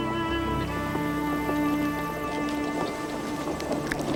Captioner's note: rumbling of wheels